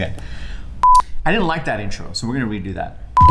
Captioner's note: beep